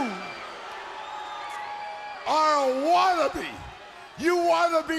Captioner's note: crowd chatter